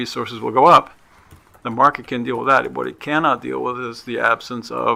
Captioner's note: none